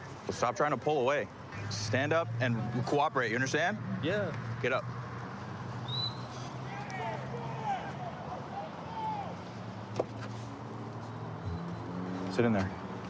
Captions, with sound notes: Well, stop trying to pull away. Stand up and cooperate. You understand? Yeah. Get up. [whistle] [indistinct shouting] [vehicles driving] Sit in there.